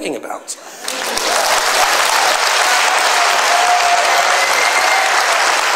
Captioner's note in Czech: potlesk